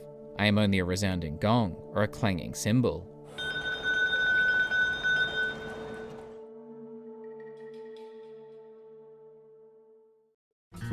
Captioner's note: Sister Calderón rings her bell